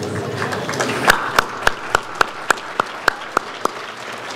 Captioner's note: audience applauds